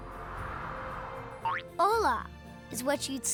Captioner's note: none